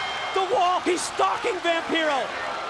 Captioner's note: bell ringing